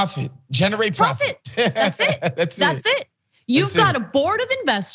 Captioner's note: laugh